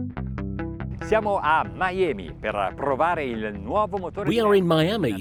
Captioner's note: speaking in foreign language